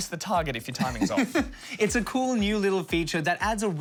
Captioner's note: chuckles